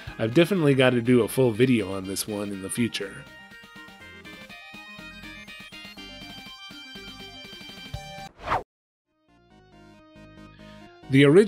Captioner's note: whoosh